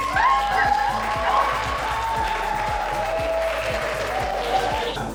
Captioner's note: applause